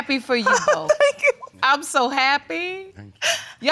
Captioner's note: tearfully